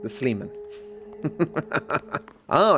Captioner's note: laughs